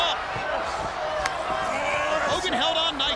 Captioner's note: wrestlers grunting